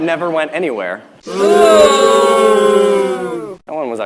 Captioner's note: crowd booing